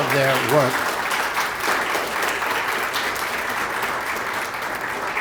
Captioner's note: applause